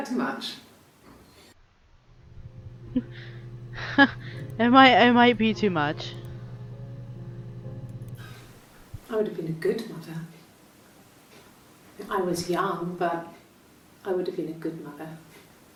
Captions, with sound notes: [laughs] It might- it might be too much.